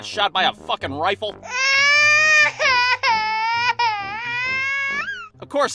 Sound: child crying

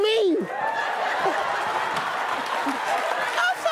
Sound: audience laughing

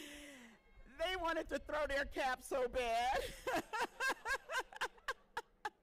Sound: laughing

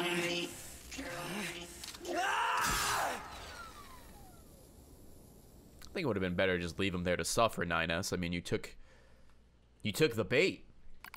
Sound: screams

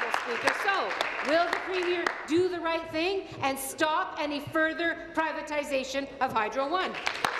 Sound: applause

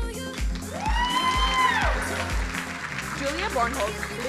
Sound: crowd cheering

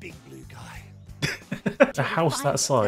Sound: laughter

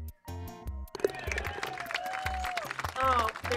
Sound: applause

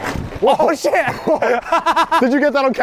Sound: laughs

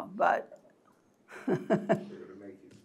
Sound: laugh

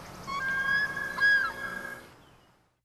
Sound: loon cry

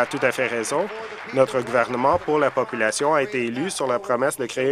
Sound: applause

